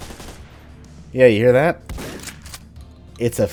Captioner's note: boom